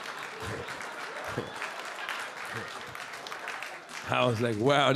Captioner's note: audience laughing and clapping; Charlie chuckling